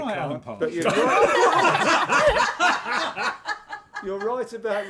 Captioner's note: laughter